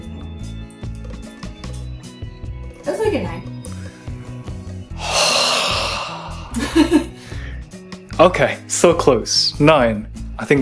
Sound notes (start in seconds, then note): 4.9 exasperated sigh